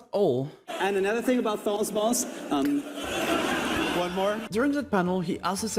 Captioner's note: the crowd laughs